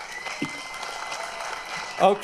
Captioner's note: applause